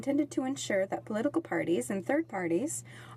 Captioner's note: speaking French